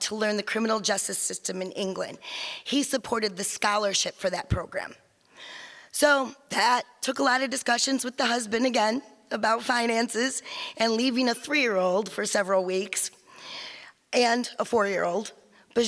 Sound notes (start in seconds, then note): none